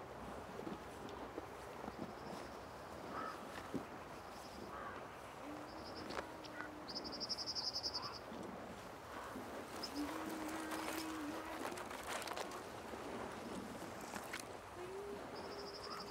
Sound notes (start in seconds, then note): 1.6 birds chirping; 6.0 person singing